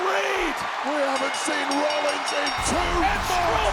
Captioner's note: bell rings